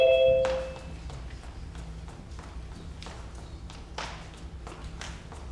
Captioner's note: light beeps; footsteps stomping